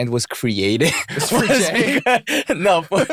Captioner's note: laughter